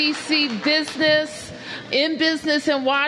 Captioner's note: applause